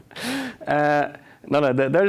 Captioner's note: laughs